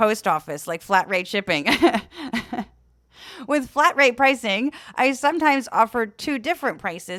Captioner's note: laugh